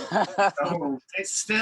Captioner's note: laughs